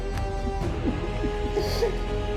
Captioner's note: soldier sobbing